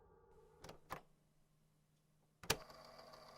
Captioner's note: click